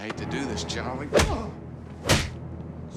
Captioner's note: dramatic rumbling